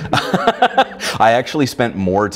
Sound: laughing

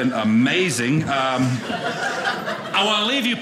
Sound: audience laughing

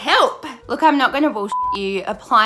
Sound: beep

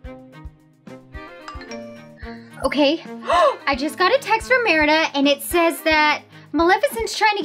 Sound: phone beeps

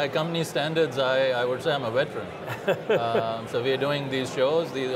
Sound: laughing

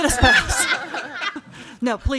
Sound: crowd laughing

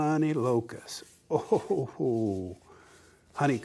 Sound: laughs excitedly

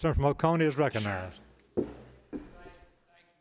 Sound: pounding of gavel

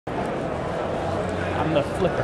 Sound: crowd noises

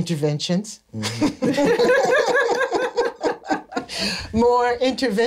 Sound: laughter

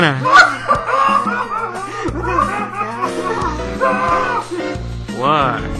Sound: everyone laughs

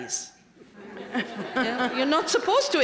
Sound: laughter

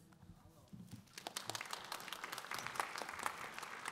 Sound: audience applause

